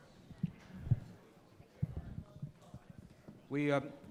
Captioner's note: crowd talking